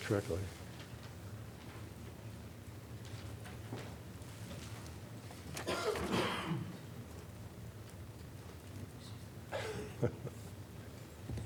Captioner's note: laughter